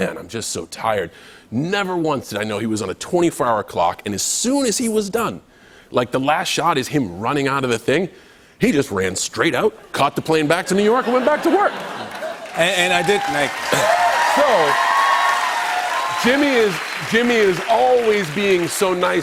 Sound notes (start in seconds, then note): 10.6 laughter; 12.7 cheers and applause